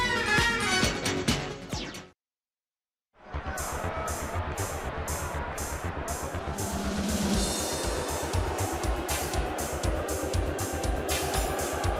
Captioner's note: crowd chatter